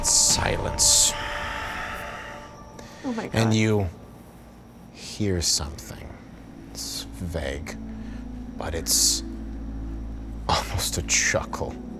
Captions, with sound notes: Silence. (sighing) Then you hear something. It's vague, but it's almost a chuckle.